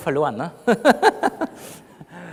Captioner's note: laughs